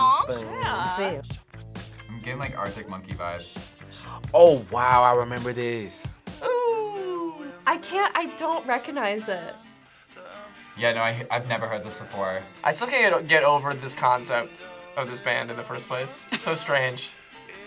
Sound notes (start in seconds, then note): 4.2 gasps